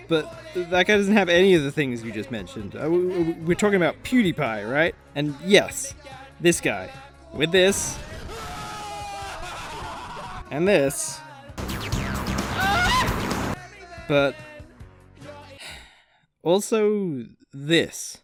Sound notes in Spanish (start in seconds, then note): 8.3 gritos de terror; 11.6 Alborotando en la calle; 15.6 suspiro